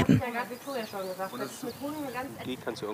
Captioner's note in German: Stimmengewirr